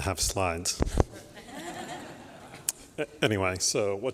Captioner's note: laughter